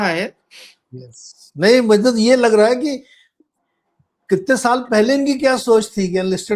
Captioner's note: nasal sound